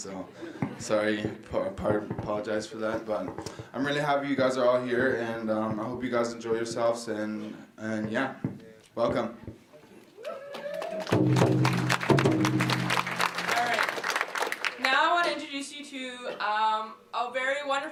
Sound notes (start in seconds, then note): 10.2 clapping and cheering; 11.0 drumming